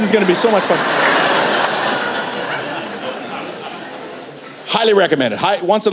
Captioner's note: laughter